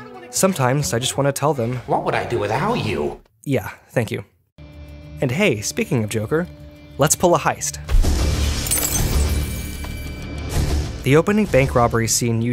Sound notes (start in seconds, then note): 7.8 intense electronic music; 8.4 glass shattering